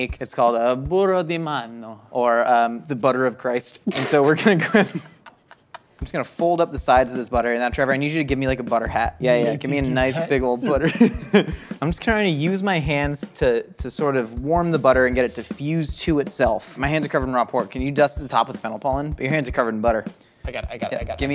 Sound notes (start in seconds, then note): 3.5 snorts; 3.8 both laugh; 10.6 laughs